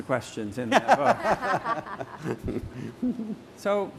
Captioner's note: laughter